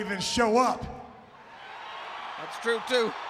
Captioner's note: audience cheering